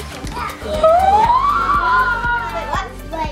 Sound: gasping

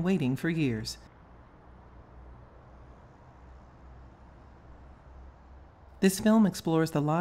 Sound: ambient street noise

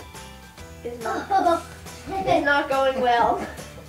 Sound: laughs

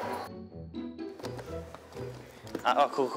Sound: rummaging

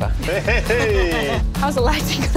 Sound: laughing

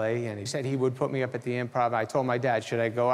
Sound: none

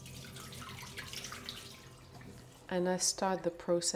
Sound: water trickling

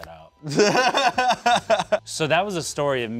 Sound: laughs

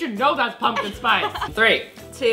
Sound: laughs

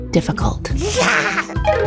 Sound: laughing

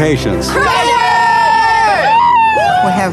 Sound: cheering

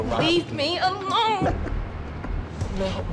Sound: laughter

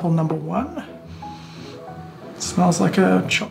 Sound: inhales

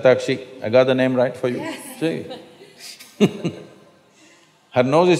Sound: laughs

